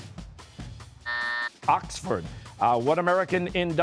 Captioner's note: buzzer